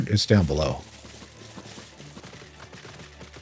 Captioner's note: fire crackling